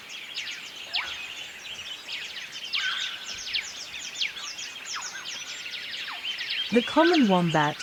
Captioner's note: birds chirping